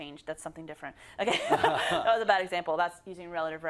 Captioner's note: laugh